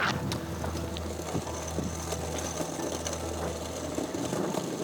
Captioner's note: metal dragging over ice